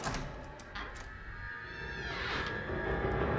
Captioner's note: door creaks